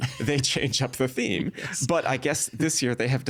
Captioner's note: chuckling